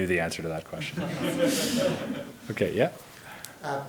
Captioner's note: audience laughs